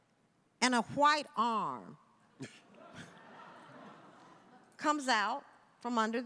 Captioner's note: audience laughing